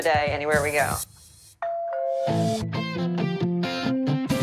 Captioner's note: doorbell rings